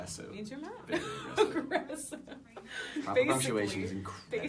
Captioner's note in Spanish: risa